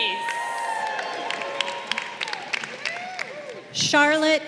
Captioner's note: crowd cheering